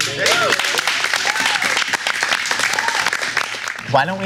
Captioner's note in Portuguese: Aplausos